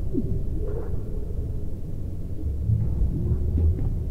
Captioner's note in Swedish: Mystiska isljud